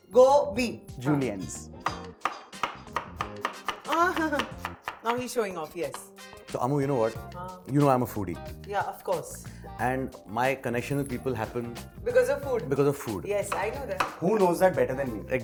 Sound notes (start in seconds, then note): 2.2 chopping